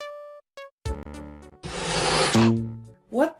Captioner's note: balloon inflating FX